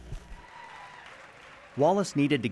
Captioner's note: applause